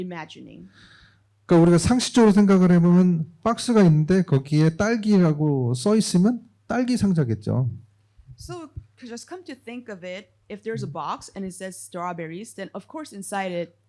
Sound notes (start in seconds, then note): 1.6 speaking korean